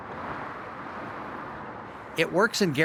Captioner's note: tires on pavement sound